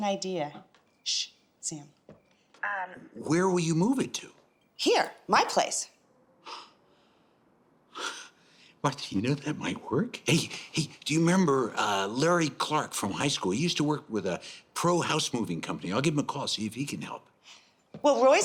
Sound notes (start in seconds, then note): 7.1 laughs